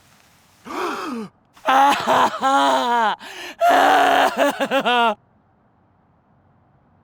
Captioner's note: Joseph wailing; brothers gasp